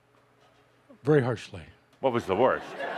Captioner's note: laughter